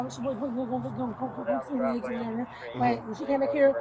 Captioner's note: radio chatter